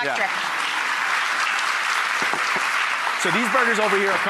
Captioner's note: audience applause